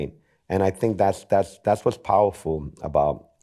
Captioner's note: none